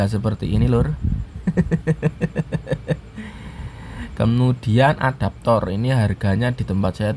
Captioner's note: laughs